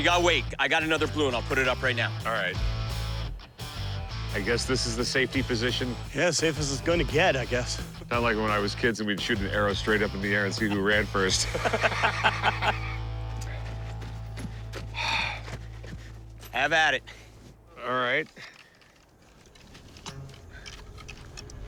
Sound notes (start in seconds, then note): 11.4 laughter; 14.3 exhales